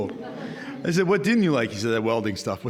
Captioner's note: audience laughing